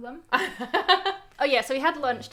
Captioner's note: laughs